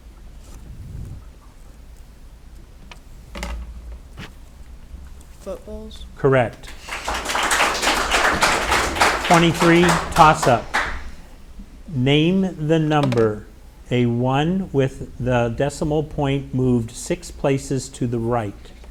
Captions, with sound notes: (light clattering) - Footballs? - Correct. (audience applauding) 23, toss-up. Name the number, a one with the decimal point moved six places to the right.